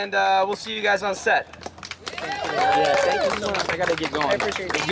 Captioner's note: applause